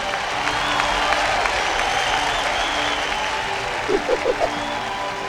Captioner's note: 耶胡欢呼; 观众欢呼